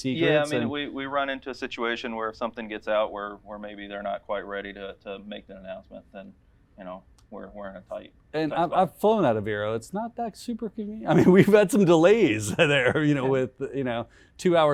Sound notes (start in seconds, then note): 12.4 laughing